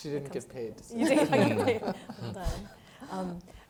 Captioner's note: laughing